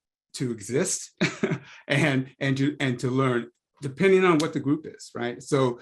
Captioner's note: laugh